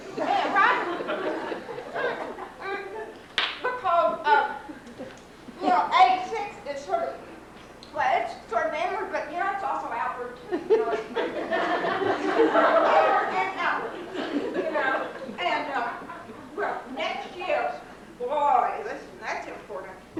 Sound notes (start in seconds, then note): 0.1 laughter; 10.5 laughter